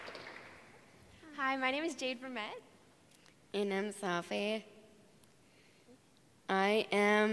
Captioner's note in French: Applaudissements